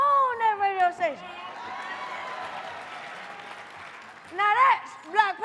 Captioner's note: audience clapping and cheering